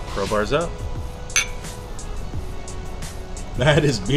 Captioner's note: glass clanking